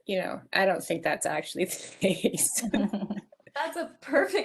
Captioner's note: laughing